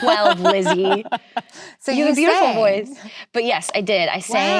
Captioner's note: laughs